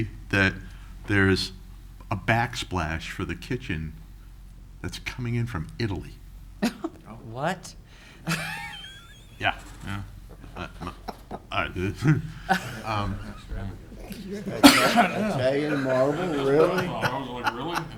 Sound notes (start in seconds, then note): 11.0 laughing; 13.5 chattering